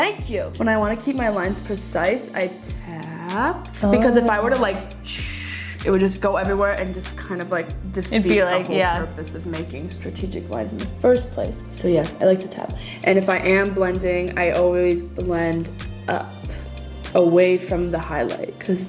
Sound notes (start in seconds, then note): 5.3 hissing sound